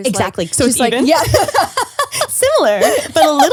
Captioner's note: laughs